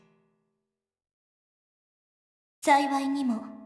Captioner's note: silence